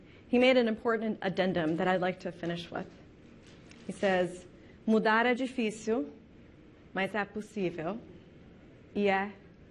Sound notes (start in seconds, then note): 4.2 speaking in foreign language